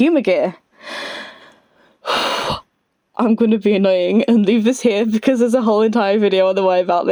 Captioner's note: deep breath